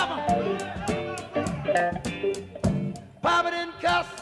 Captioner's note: crowd shouting